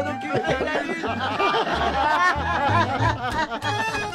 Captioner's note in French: Rires